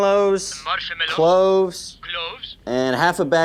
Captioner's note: phone